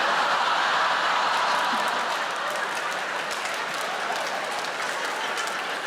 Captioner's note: audience laughing and clapping